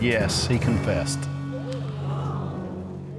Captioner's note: audience gasps